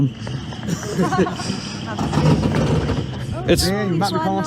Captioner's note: group laughing